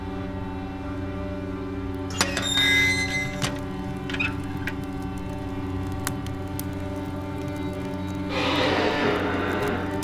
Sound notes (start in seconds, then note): 1.9 fire crackling